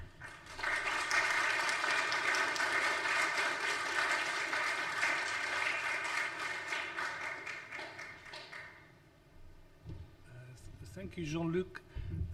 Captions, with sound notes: (audience applauds) - Thank you Jean-Luc.